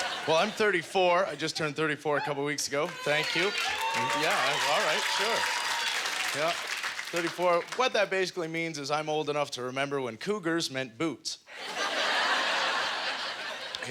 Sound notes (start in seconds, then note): 0.0 audience laughter; 5.3 audience applause; 11.6 audience laughter